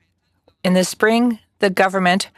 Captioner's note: speaking French